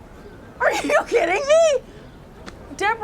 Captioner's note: yells